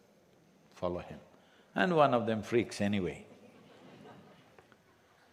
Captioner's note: few laugh